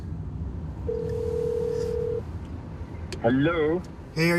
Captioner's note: phone rings